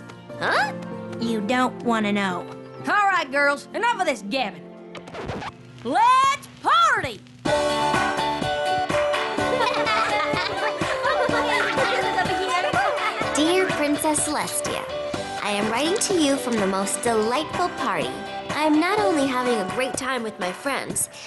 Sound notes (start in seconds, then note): 4.9 record scratches; 7.3 dance music plays; 9.4 laughter